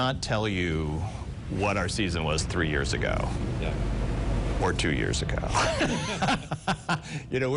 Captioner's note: laughs